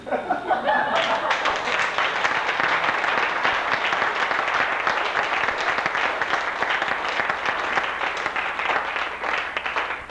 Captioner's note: laughter; applause